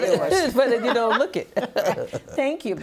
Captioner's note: laughing